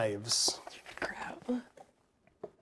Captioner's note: paper rustling